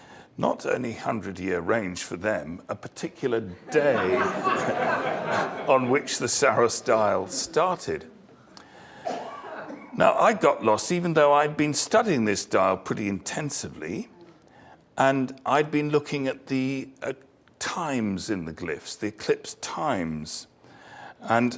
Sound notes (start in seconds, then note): 3.6 laugh